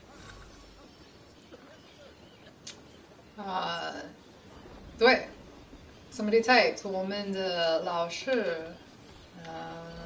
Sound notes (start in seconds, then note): 4.7 non-english speech